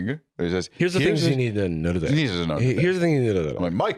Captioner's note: both doing slurring, meandering impressions